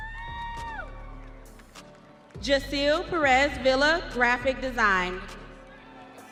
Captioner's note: audience cheering